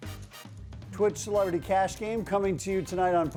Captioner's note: voiceover